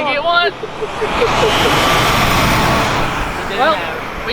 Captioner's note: ATV engine roaring